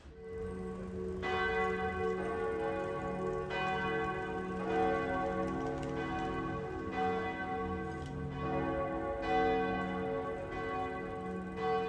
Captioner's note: bells